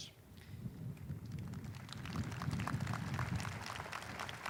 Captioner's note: audience applauding